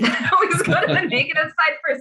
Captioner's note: chuckling